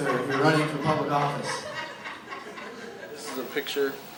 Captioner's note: laughter